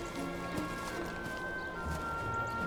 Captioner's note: footsteps